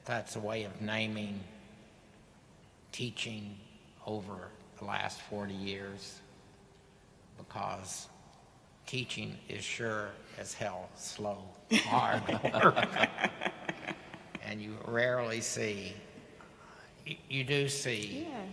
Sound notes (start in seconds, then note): 11.7 panelists laughing